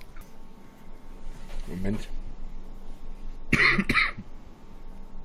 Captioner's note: cough